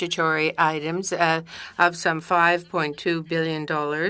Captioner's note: speaking French